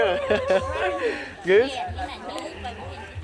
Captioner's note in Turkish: kahkaha